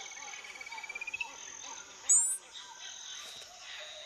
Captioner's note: chirps; chirps squeakily